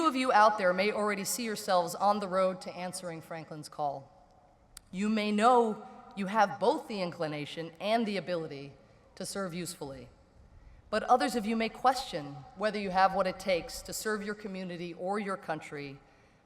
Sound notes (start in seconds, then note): none